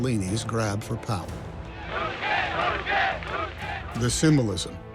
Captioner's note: crowd